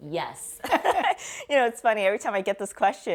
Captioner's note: laughing